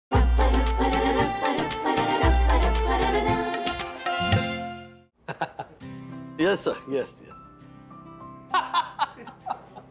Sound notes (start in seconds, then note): 5.2 chuckling; 8.5 laughing